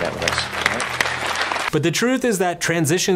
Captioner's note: audience applauding